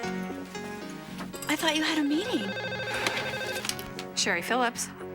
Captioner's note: phone rings